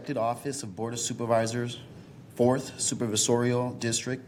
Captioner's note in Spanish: habla español